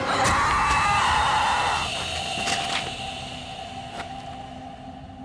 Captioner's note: screams